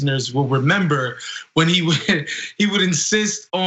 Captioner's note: laugh